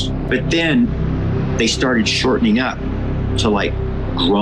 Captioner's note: eerie howl